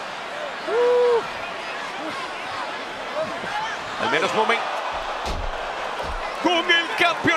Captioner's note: applause